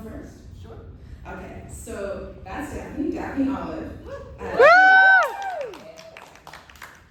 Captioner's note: cheers